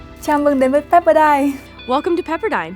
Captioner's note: foreign language